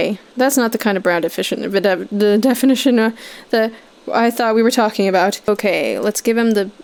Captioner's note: stammers